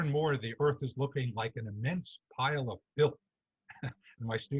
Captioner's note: chuckles